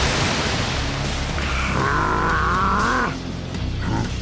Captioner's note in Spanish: Gruñidos